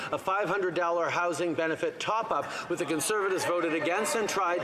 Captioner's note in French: voix de l'interprète